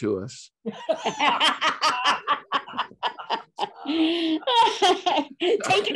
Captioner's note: laughing